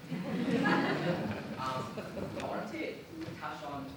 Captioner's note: audience laughing